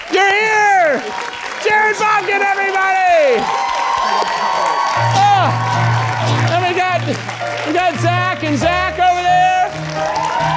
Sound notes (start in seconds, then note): 3.9 audience cheering